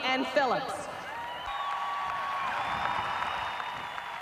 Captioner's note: crowd cheering